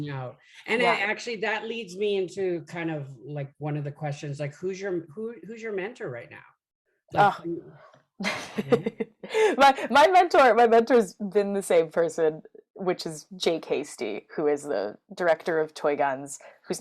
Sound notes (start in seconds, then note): 8.2 laughs